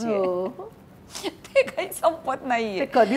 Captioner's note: Chuckles